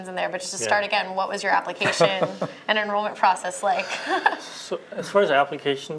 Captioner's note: laughter